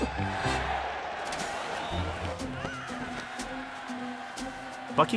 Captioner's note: chuckles